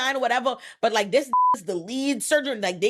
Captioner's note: beep